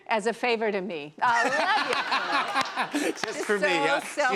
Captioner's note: laughter